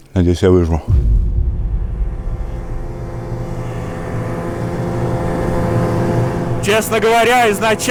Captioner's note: engine noise